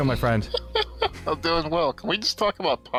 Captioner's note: laughs